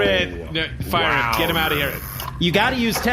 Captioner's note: tranquil anger